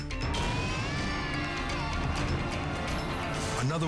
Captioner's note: baby crying